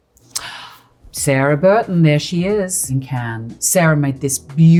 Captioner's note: gasps